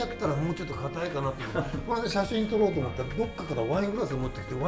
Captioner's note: laugh